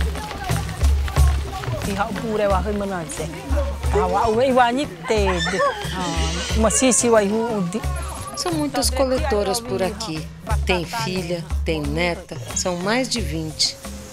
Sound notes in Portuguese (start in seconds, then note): 2.2 falas em língua indígena